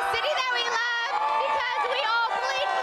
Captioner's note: cheering and applause